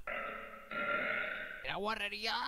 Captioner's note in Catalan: Eructe